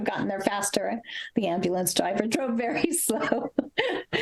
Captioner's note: laughs